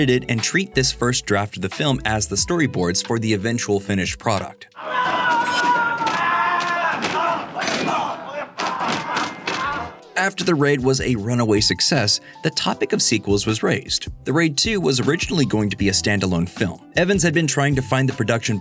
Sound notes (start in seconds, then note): 4.9 shouting; 6.5 grunting, sounds of combat